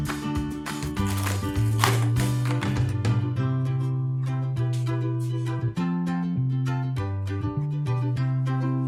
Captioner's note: om-nom-nom